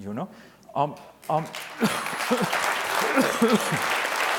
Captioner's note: audience applause